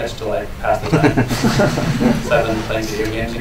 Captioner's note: laughter